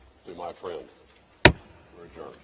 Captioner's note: bang